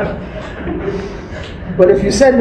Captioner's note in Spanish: risas